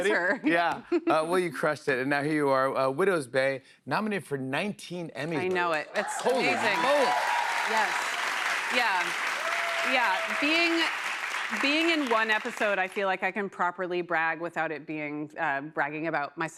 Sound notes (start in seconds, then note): 8.7 cheers and applause